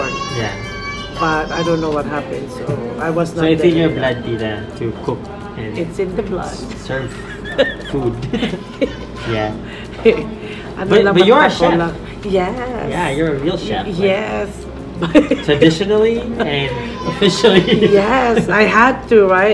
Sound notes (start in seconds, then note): 7.1 laughs; 16.2 laughs